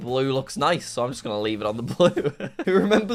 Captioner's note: laughs